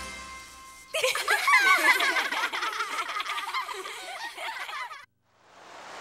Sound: laughter

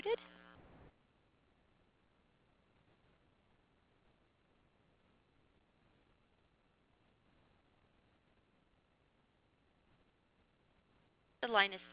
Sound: silence

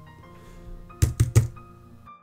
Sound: typing

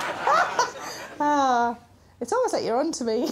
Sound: sighs

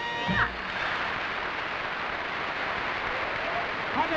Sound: audience applauding

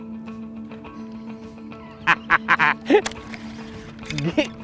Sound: laughter

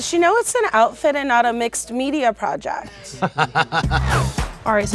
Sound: laugh

